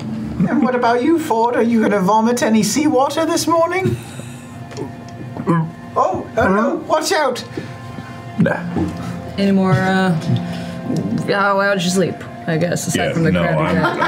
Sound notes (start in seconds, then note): 5.2 choking noises